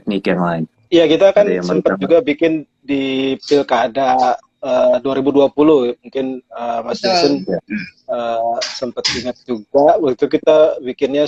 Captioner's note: non-english speech